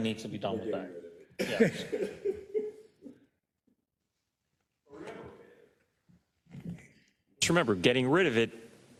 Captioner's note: laugh